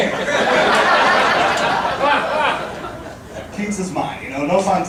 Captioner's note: audience laughing